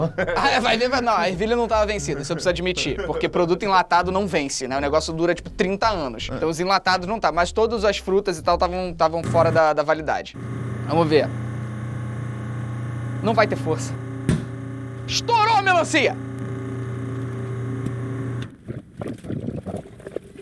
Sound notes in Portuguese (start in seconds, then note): 14.2 melancia faz barulho de estouro; 18.9 blub blub blub blub